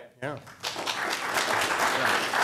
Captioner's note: applause